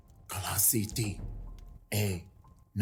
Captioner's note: speaking Cherokee language